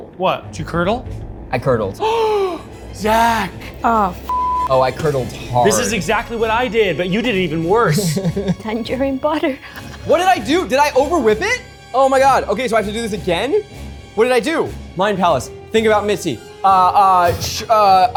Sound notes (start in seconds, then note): 2.0 gasps; 7.8 laughs